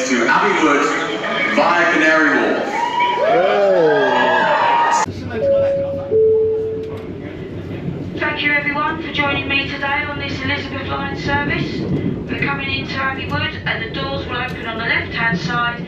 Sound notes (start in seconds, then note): 3.3 crowd and cheer; 5.4 chime rings